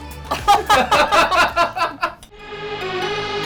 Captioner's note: laughing